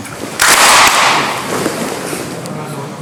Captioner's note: clap